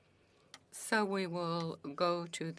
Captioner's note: speaking French